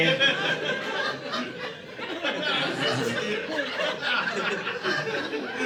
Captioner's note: audience laughing